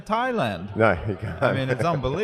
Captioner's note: laughs